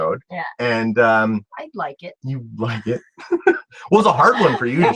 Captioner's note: laugh